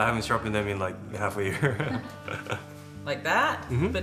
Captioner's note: laughs